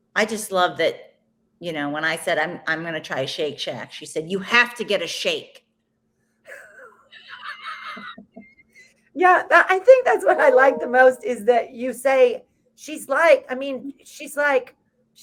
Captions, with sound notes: I just love that, when I said I'm gonna try a shake shack, she said, "you have to get a shake." (both laughs) - Yeah. I think that's what I like the most is that you say,